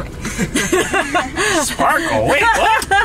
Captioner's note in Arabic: يضحك